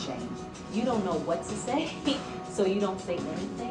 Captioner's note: laughing